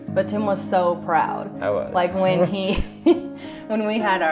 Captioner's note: laughter